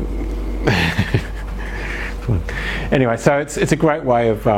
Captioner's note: chuckles